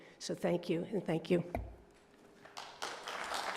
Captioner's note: applause